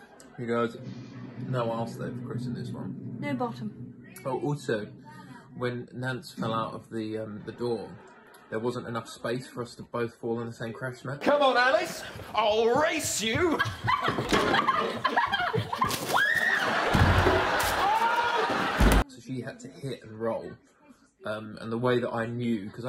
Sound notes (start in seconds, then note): 16.0 screams